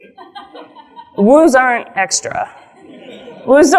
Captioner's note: laughs; audience laughs